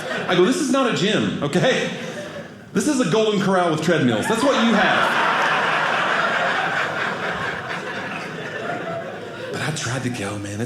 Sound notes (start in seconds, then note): 4.2 audience laughing